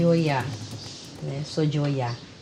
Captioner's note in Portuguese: pássaros ao fundo